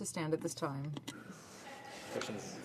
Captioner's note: speaking French